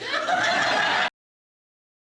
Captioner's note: audience laughs